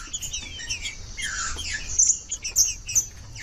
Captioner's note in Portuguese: trinca ferro cantando